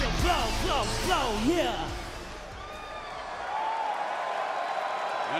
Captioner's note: crowd cheering